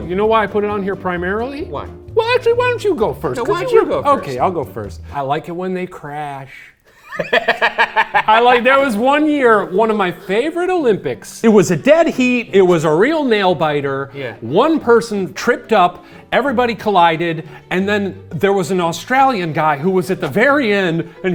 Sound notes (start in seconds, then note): 6.9 laughing hysterically